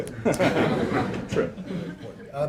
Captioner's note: laughter